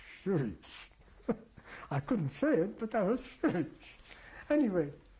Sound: laughs

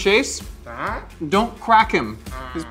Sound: Glorp-Glorp exclaims

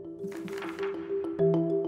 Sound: gentle music; slide flips

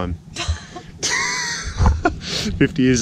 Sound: laughs

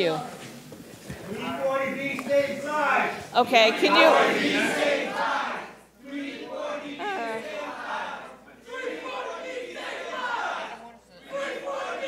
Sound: protesting continues

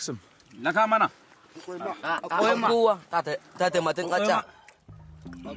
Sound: men speaking foreign language

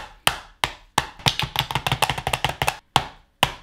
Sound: tapping

